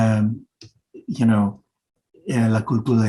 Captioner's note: speaking Spanish